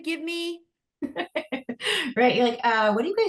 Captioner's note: laughs